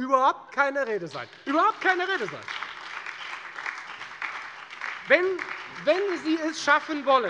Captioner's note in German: Beifall bei der FDP sowie bei Abgeordneten der SPD und der LINKEN